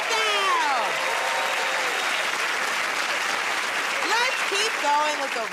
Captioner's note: cheers and applause